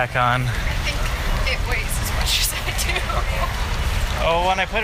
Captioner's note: laughing